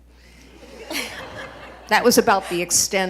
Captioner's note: audience laughing